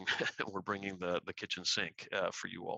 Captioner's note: laughter